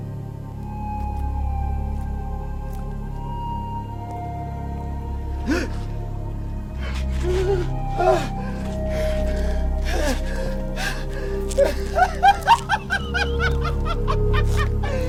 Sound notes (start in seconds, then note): 5.5 gasping; 9.8 grunting; 12.0 maniacal laughing